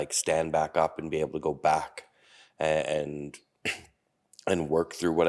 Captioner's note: coughing